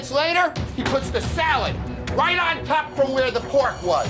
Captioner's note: hand banging